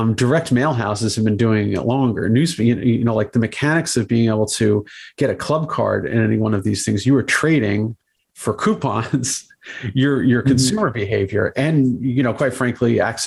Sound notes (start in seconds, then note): 9.6 laughs